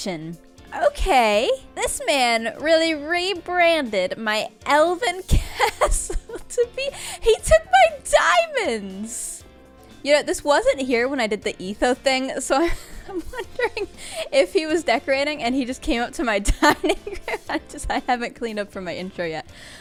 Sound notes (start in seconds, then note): 12.6 laughs breaking speech